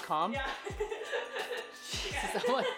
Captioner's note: laughing